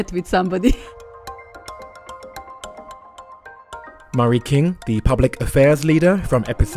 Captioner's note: voiceover